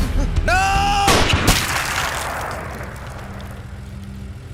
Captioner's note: flesh spurting; gun fires; engine humming